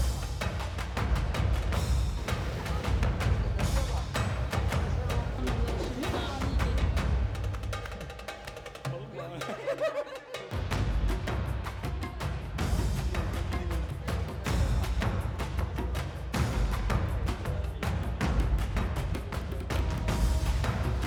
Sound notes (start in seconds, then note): 5.3 laughter